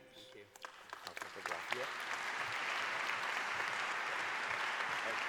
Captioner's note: applause